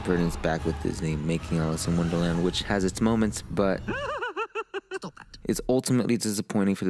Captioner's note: mad hatter laughs